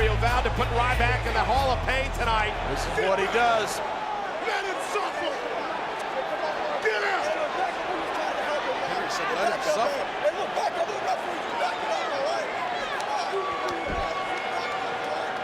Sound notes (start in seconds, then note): 11.4 referee yelling